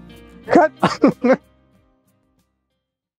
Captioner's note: laughter